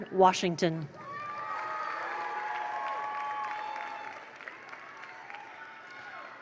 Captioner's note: attendees cheer; attendees applaud